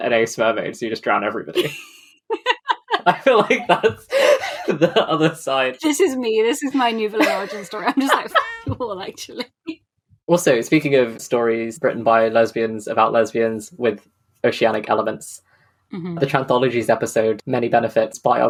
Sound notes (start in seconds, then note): 2.3 laughing; 2.3 laughs; 7.1 laughing; 7.1 laughs